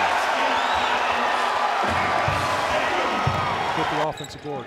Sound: crowd cheering

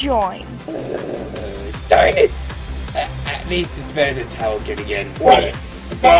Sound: clock grumbles

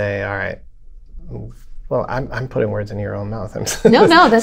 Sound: laughter

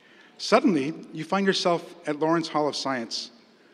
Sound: none

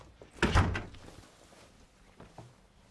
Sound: door closing

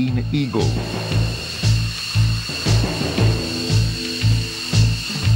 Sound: airplane engine roaring

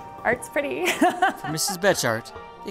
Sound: laugh

